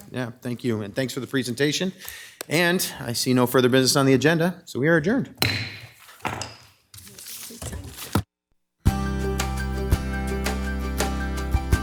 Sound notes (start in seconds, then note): 5.4 gavel thudding; 8.8 bright music